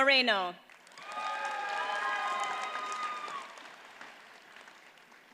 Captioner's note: audience cheers and applauds